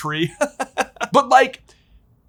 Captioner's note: chuckling